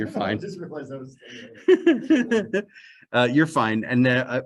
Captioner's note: chuckle